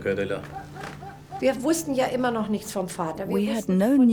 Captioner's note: speaks in foreign language